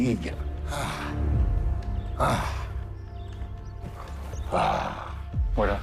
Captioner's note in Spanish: Suspiros